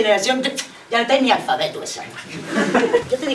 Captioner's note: laughs